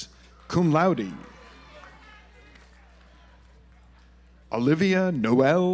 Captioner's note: audience applauds